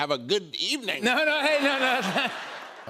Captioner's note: laughter